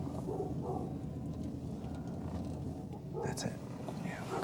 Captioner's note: whispering; dog barking